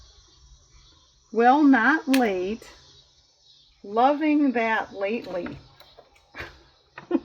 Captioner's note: laughs